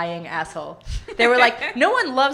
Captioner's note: laughing